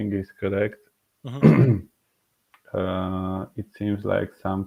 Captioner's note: clearing throat